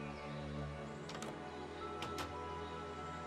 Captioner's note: door closes; door opens